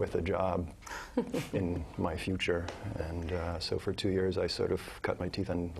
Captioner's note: laugh